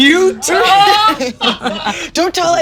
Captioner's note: all laughing